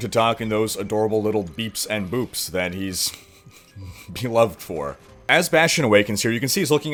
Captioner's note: giggling